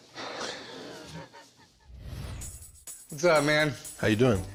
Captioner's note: laughs